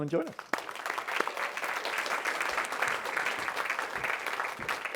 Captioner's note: audience applauding